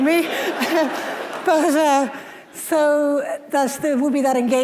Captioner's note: audience laughing